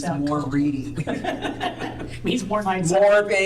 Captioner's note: laughter